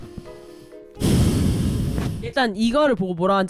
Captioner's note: sigh